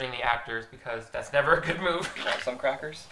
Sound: laughs

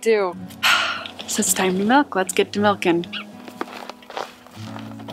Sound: sigh

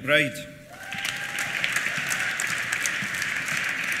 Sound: cheers; applause

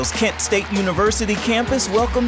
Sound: applause

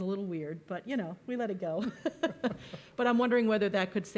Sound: laughs

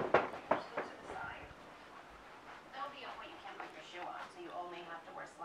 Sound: TV playing quietly

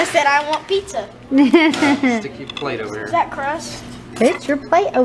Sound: laugh

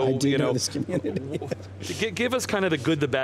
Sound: laughing

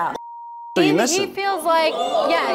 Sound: beep

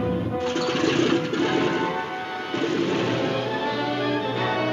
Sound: airplane engine sputte

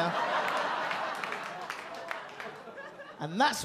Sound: audience laugh

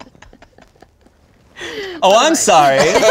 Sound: they giggle

